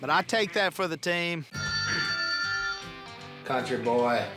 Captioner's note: phone ringing